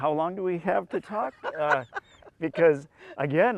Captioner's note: laughs